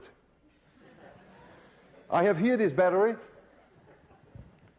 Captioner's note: laughter